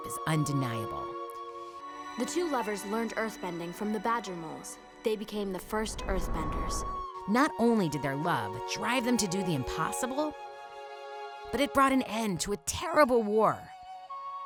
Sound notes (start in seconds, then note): none